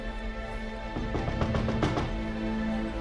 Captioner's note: door banging